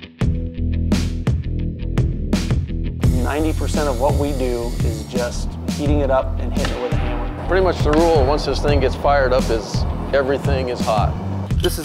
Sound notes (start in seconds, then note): 0.2 upbeat music; 3.0 metal grinds